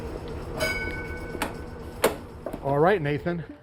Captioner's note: bell rings